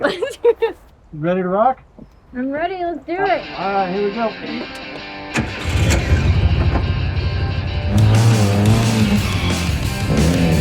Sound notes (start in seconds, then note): 0.0 laughs; 5.3 turns on ignition; 8.2 engine roars & tires screech